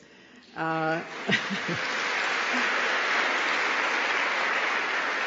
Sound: applause

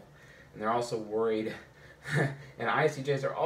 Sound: chuckles

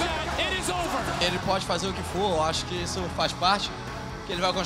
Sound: speaking Portuguese

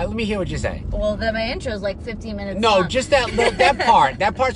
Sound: laughs

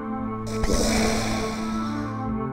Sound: boom

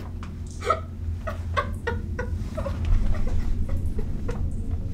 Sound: Heather sobbing

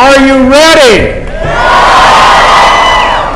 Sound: cheering

